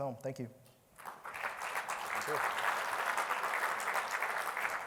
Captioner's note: applause